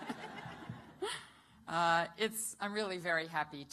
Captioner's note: laughter